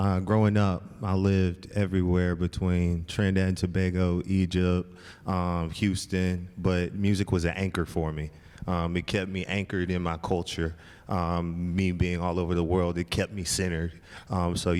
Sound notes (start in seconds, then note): none